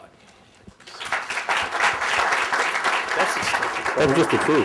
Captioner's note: applause